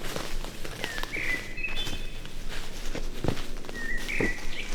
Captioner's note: birds chirping